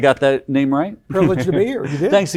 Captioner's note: chuckles